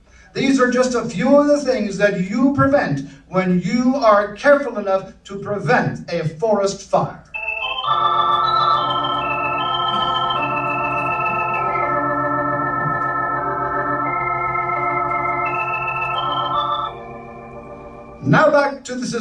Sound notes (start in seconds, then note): 12.6 footsteps